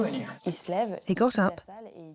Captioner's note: non-english speech